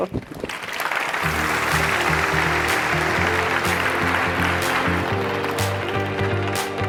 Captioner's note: audience applauding; upbeat music